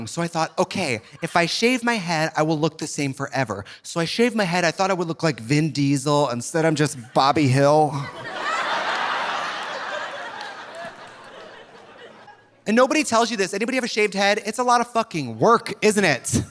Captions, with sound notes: so I thought, "Okay, if I shave my head, "I will look the same forever," so I shaved my head. I thought I would look like Vin Diesel. Instead, I'm just Bobby Hill. (audience laughing) And nobody tells you this, anybody have a shaved head? It's a lot of fucking work, isn't it?